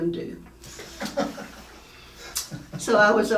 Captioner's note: laughing